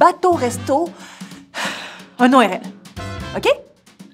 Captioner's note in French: soupir